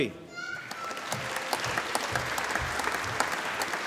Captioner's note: applause